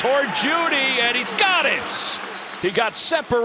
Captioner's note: whistle blowing